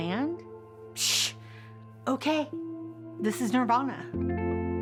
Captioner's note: scoffs